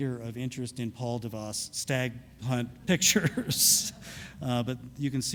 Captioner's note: laughing; audience laughs